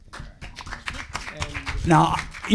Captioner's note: audience applauding